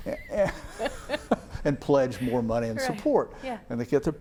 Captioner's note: chuckles; laughs